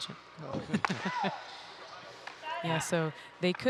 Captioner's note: laughing